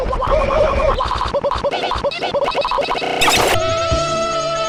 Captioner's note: various stuttering and glitching